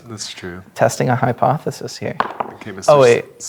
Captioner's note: dice rolling